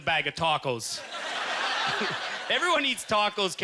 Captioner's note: audience laughter